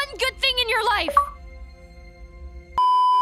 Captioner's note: xbox achievement sound; beeeeeeeeeeeep